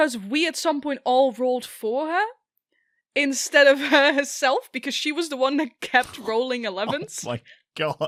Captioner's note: laughs